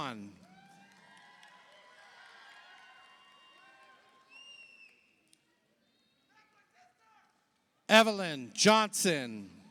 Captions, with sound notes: (audience applauds) (audience cheers) Evelyn Johnson,